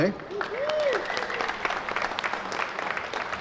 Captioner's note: applause